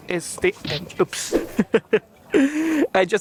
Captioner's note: laughs